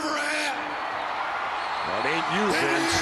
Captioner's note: audience cheering